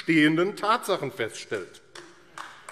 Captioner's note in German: Heiterkeit und Beifall AfD